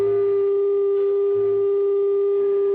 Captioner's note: none